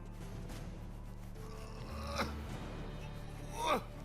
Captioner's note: grunting